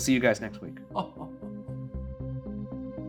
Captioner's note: laughing; eerie rhythmic music